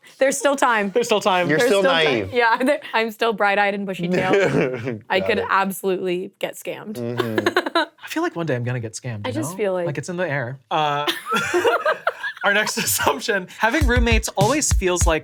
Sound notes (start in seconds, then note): 7.0 laughs; 11.0 both laughing